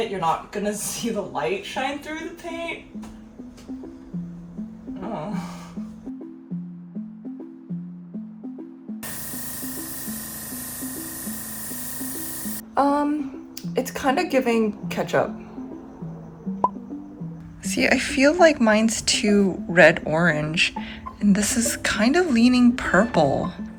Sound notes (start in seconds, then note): 6.1 spritzing sounds